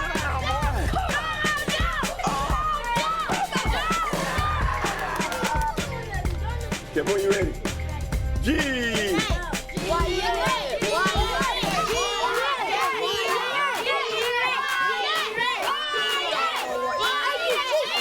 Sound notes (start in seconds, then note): 0.0 kids continue cheering; 9.2 exclaims; 10.8 kids cheering